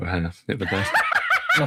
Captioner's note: laughing